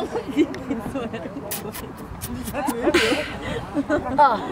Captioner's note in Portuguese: sound like a horse